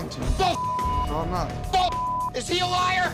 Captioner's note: beep